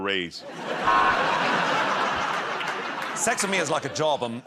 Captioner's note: laughter